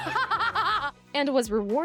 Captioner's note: laughs